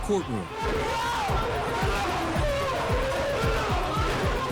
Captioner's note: yelling